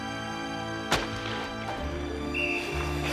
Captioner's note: whistle blowing